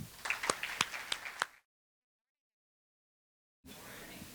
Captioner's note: everyone applauding